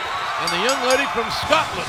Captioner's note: bell ringing